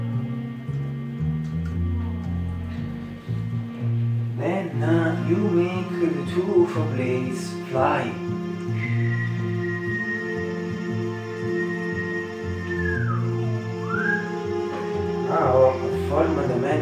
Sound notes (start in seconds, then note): 12.7 whistle